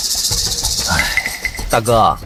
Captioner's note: sigh